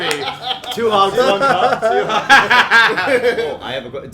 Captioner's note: laughter